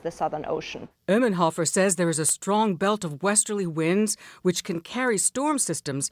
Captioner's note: voice-over